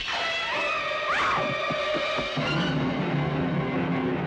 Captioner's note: scream